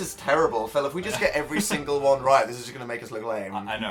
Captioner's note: Phil giggles